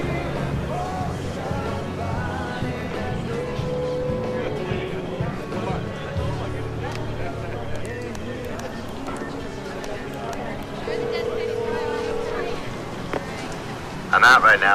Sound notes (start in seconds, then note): 0.6 indistinct chattering; 12.3 line ringing